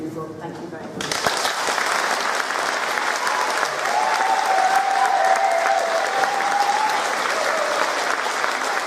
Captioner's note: applause